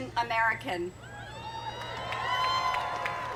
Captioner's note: cheering and applause